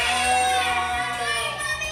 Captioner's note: family cheering